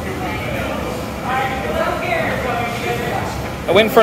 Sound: kitchen crew chatter echoing

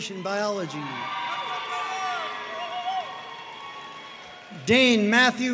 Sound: audience cheering and applauding

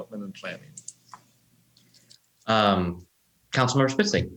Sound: mouse clicks

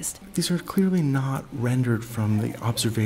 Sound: voiceover

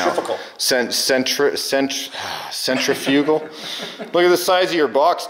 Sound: sighs

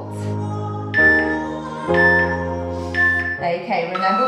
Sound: timer beeping

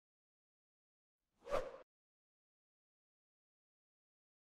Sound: whoosh

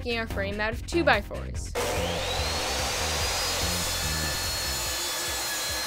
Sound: saw buzzing

